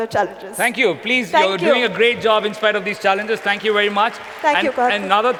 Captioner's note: cheering